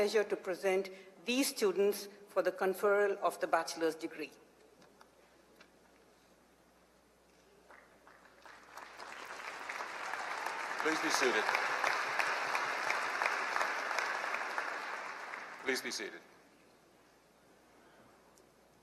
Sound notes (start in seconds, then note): 4.8 applause